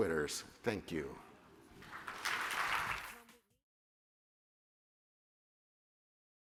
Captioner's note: applause